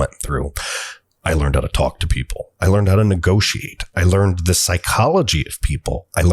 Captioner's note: inhale